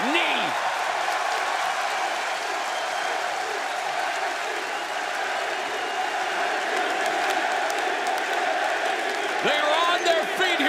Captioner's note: crowd cheering